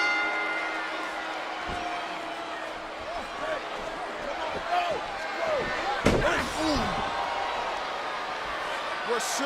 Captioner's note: applause